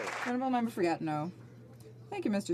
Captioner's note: some Applause